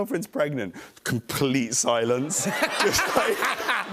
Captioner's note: laughter